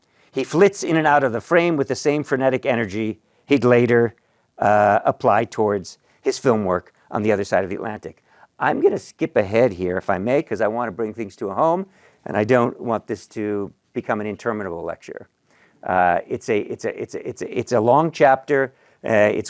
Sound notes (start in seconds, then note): none